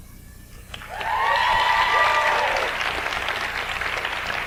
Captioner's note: audience applauds